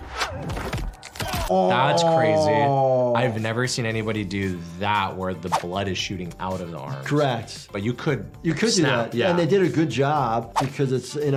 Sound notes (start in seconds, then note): 0.6 bones snap